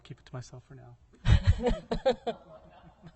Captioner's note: laughter